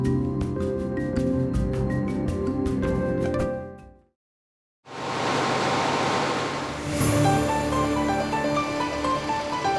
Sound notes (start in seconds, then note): 5.0 machines rumbling; 6.8 bright music